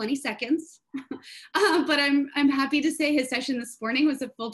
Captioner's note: chuckles